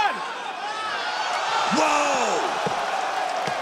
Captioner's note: crowd gasps